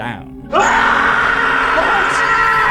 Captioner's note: screaming